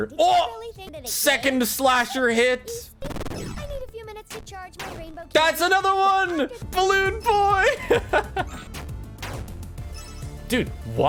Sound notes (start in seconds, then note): 7.3 laughs